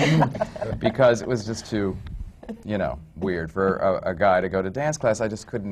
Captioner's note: laughter